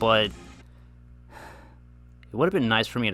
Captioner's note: sighs